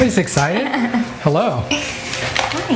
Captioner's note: woman laughs